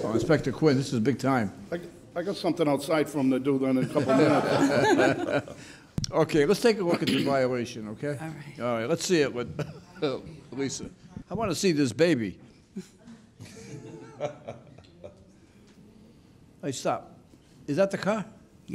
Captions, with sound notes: Well Inspector Quinn, this is big time. I got something outside for him to do then in a couple minutes. (laughing) Okay, let's take a look at your violation, okay? All right. All right, let's see it, Lisa. I wanna see this baby. All right stop. Is that the car?